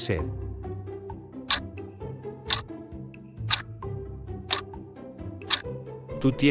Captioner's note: FX - Clock Tick